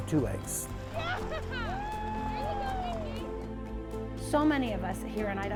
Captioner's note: cheering